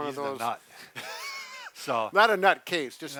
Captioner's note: laughs